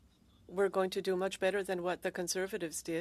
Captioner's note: speaking French